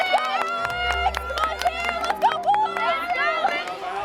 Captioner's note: crowd clapping